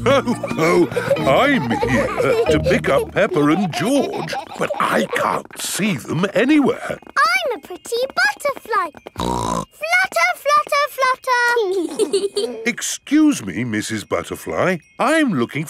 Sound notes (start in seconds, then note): 0.0 laughs; 9.1 snorts; 11.8 both giggling